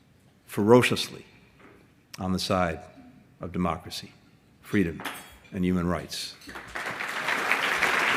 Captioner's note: applause